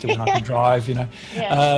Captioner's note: laughs